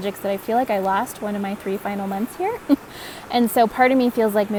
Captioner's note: chuckles